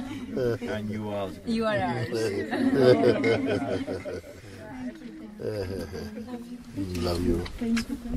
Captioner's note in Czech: smích